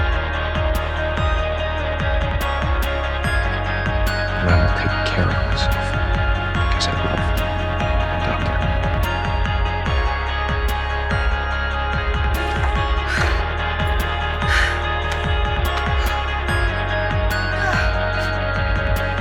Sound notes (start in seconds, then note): 4.6 voiceover; 12.3 Helen breathing heavily